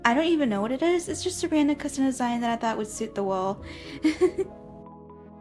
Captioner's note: giggles